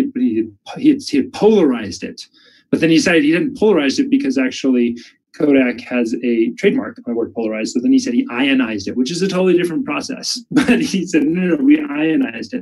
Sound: chuckles

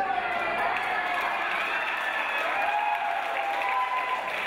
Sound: audience applause

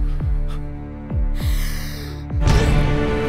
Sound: breathes heavily

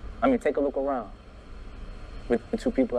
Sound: none

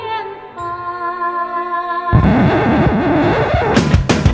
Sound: record Scratch

